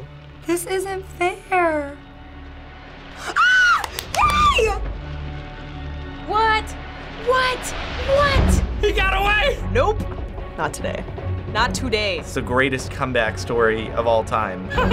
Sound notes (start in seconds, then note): 3.1 shrieking; 14.7 laughing giddily